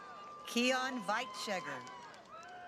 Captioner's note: cheering